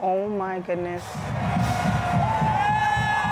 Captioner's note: crowd cheering